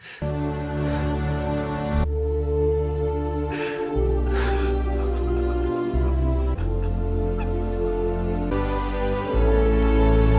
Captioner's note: cries a lot